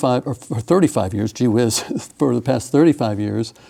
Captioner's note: chuckles